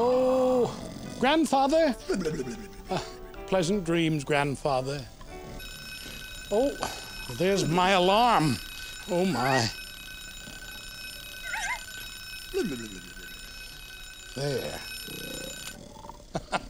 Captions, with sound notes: OH, GRANDFATHER! ( snoring ) PLEASANT DREAMS, GRANDFATHER. ( ringing ) THERE'S MY ALARM. OH, MY. THERE.